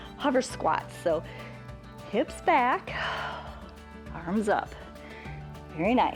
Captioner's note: exhales